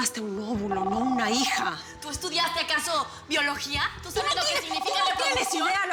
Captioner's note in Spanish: Suena el teléfono